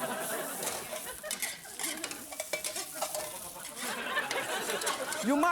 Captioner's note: audience laughs